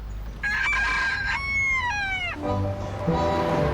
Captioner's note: rooster crows